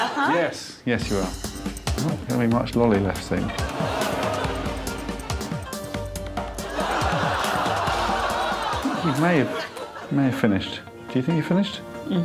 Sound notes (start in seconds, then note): 4.8 laughter